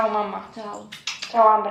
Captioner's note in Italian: smack smack smack